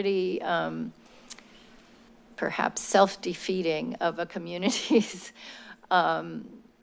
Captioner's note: laugh